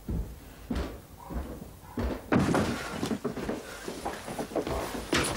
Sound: floorboards creaking

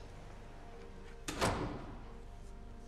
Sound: door closes

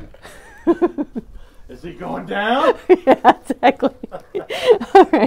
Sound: still laughing

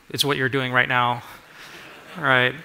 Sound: laughter

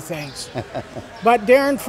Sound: laughs

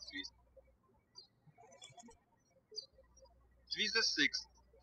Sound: birds chirping

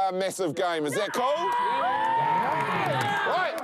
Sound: all cheer

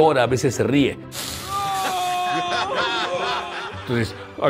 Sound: Homer screaming; crowd laughing

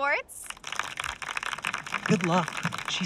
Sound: applause

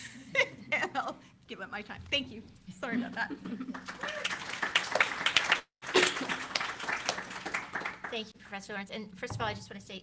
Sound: applause

